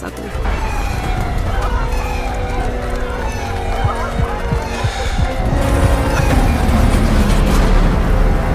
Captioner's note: sirens blare as the classroom roof crashes down